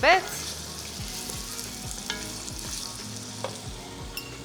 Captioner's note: pot sizzles